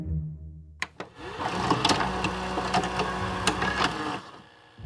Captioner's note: tape playing